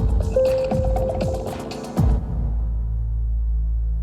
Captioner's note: elevator ding